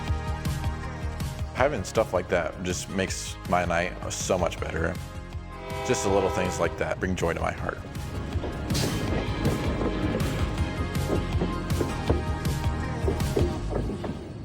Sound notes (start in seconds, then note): 0.1 upbeat music; 12.3 upbeat music; 13.3 train rumbling